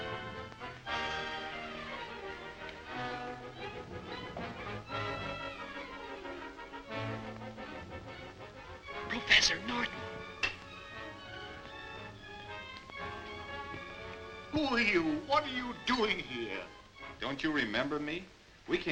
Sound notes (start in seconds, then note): 1.5 thrilling music continues; 9.7 crash